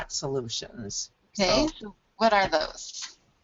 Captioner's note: voiceover